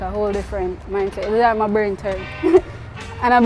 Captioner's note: laughs